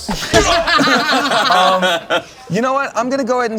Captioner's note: heroes laugh